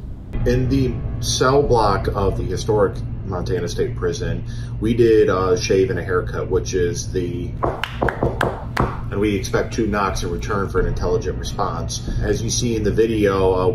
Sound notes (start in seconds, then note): 7.6 knocks